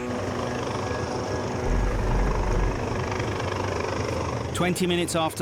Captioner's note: helicopter rotor blades whirring